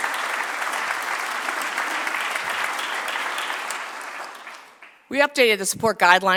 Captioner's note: applause